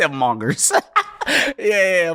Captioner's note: laughing